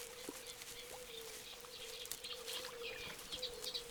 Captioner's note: birds singing